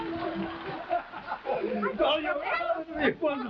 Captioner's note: everyone laughing